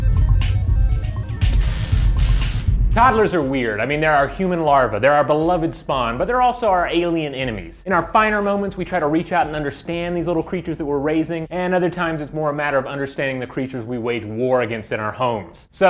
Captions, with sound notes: (intense music) (electricity buzzes) Toddlers are weird. I mean they're our human larva, they're our beloved spawn, but they're also our alien enemies. In our finer moments we try to reach out and understand these little creatures that we're raising, and other times it's more a matter of understanding the creatures we wage war against in our homes.